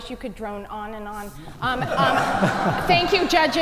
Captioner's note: audience laugh